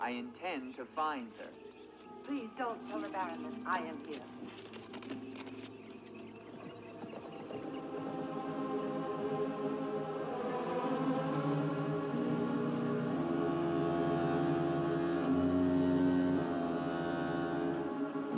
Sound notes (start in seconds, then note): 7.1 hooves galloping; 7.1 ominous music